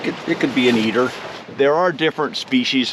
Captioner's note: water flowing